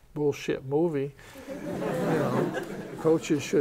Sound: laughter

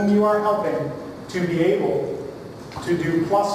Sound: none

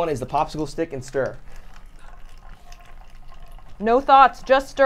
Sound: water pouring

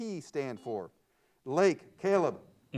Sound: buzzer sounds

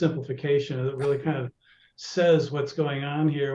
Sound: chuckles

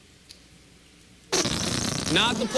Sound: farting noise

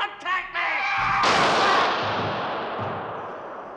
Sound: gunshot

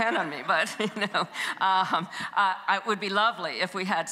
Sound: chuckles

